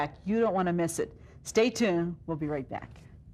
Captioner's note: none